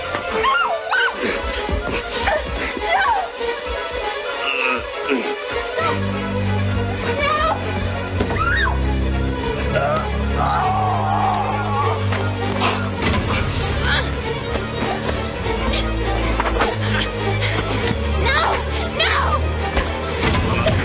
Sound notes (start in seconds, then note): 0.4 Meg screams; 4.4 Paul grunts; 8.3 Meg screams; 9.4 both grunting